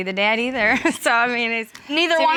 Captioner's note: chuckles